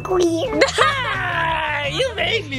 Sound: laughing

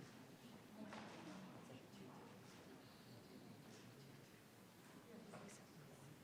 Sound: people continue chattering

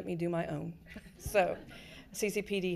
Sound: people laughing

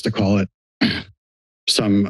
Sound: clears throat

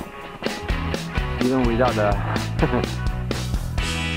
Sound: giggle

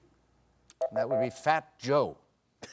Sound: beeping

